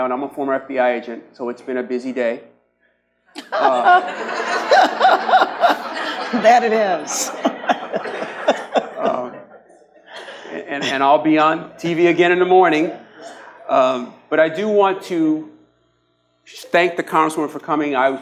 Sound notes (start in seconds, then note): 3.4 audience laughs; 7.4 laughs